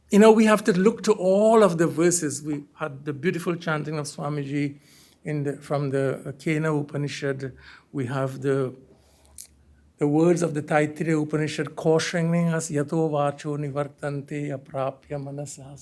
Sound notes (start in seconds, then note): 6.3 hindi; 9.8 hindi; 12.3 speaking hindi